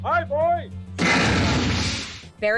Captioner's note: crashes